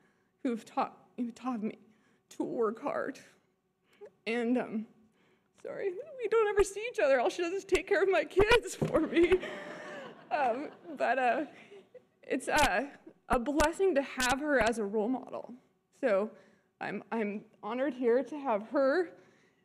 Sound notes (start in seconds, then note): 9.0 audience laughter